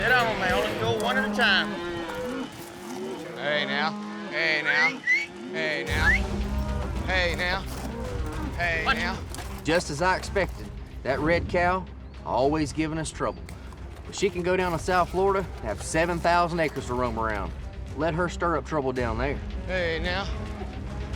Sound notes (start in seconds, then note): 4.7 whistling